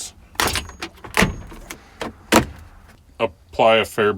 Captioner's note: banging